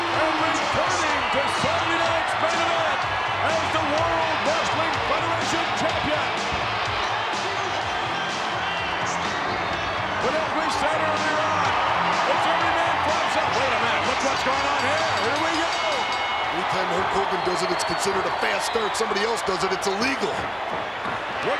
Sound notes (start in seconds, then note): 6.3 upbeat music; 15.0 bell rings